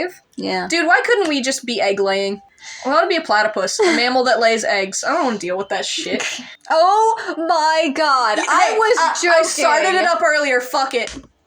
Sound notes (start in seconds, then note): 3.6 laugh; 5.9 snicker